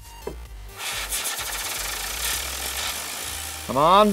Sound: whirring

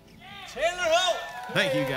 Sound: clapping

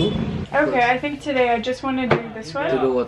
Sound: car honking

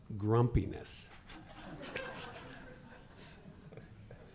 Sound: laughing

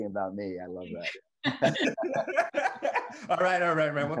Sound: group laughing

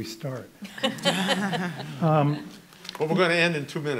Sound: laughing

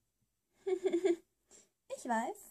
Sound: giggle

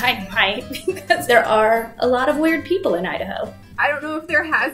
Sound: laughs

